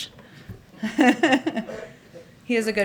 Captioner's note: laughter